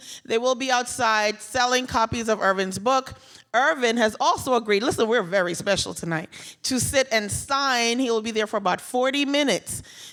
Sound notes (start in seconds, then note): none